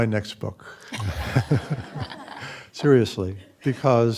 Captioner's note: chuckling